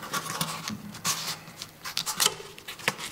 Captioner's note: soft grinding